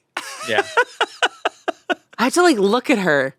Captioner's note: laughs